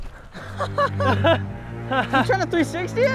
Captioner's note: laughter